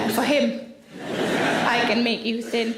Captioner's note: audience laughs